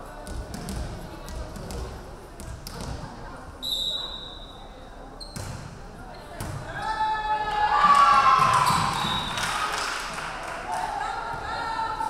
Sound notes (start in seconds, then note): 3.6 referee whistling; 6.8 crowd cheering; 8.7 referee whistling